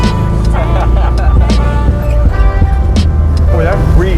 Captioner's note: both laughing